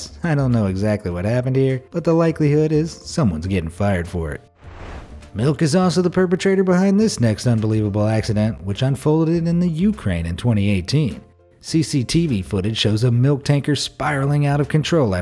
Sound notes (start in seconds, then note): 4.5 air whooshing